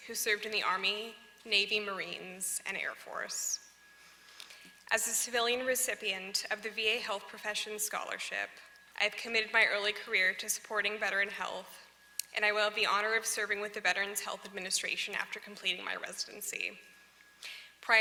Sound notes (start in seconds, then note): none